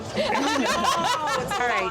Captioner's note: laughing